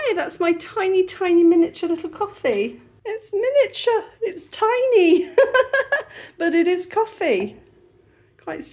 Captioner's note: laughing